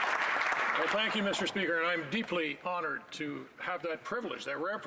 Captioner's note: applause